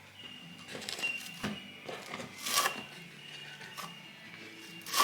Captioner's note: grout trowel scrapes on wood